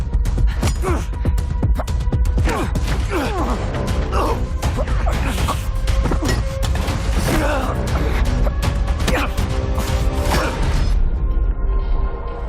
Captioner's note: grunting